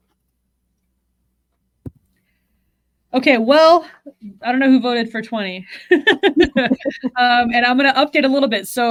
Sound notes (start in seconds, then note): 5.9 laughs